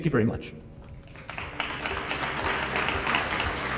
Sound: audience applauding; soft music

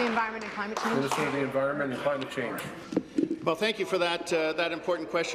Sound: applause

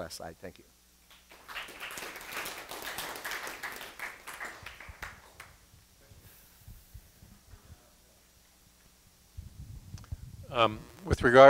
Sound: applause

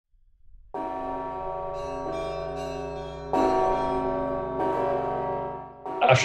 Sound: bells ringing

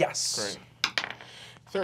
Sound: dice clacks

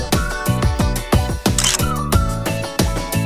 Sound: photo click

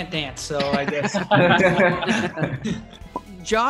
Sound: cast Laughing

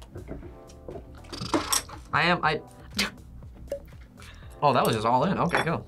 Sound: laughs

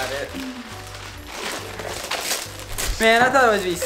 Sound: paper tearing

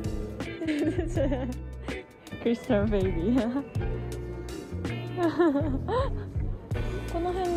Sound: laughs

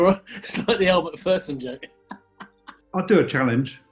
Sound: laughing

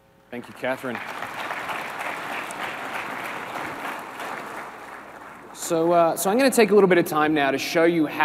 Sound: applause

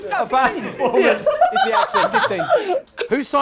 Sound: laughter

